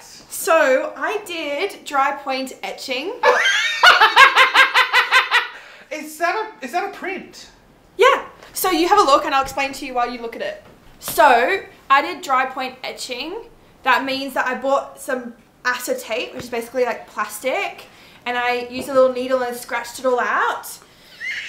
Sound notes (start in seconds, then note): 3.2 Christian laughing; 21.2 Christian laughing